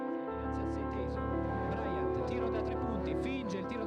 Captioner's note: announcer speaking in Italian